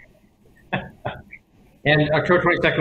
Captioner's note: laughs